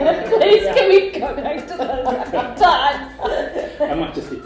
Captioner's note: laughter